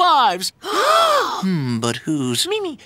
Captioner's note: students gasping